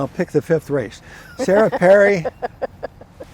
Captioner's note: laughing